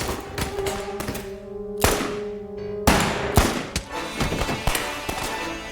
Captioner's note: dramatic music; guns firing; dramatic music